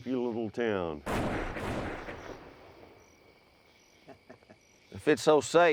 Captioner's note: gunfire echoing distantly